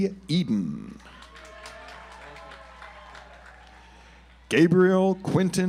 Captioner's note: audience applauds